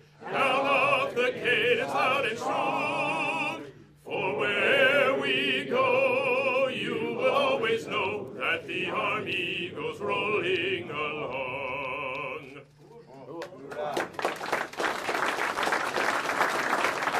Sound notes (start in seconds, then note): 13.4 audience applauds